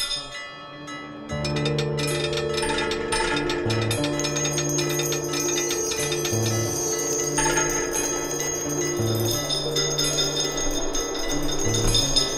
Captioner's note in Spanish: ruidos metálicos